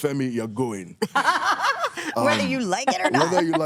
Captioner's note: laughs